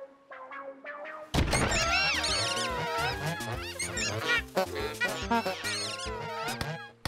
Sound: cheering honks

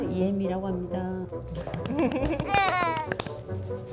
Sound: clapping

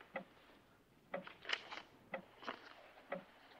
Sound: clock ticks

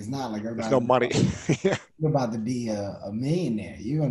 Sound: chuckles

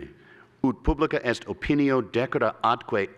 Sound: speaking latin

